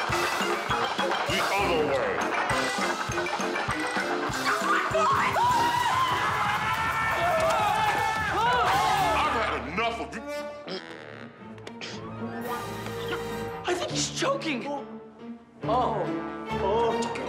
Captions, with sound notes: The other way. [clacking] That's my foot! [screaming] - Ah! - I've had enough of-- I think he's choking! Oh! Oh!